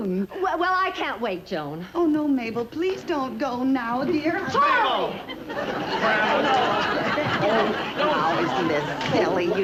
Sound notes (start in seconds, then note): 4.4 exclaiming; 6.6 mixed chatter